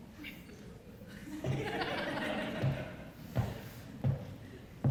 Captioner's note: muted audience laughter